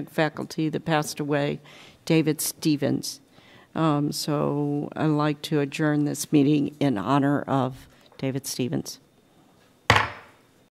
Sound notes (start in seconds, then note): 9.9 gavel